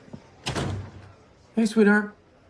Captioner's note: slams the door